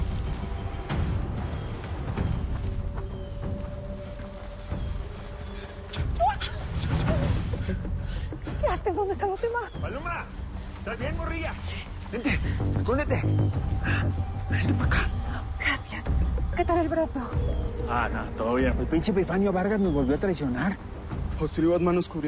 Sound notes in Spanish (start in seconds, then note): 6.0 Grito